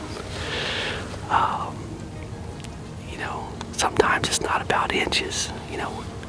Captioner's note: whispering